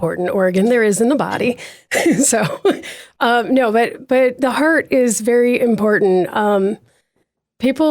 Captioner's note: laughs